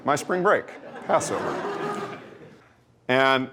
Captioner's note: laughter